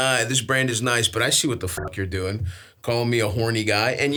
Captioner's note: beeps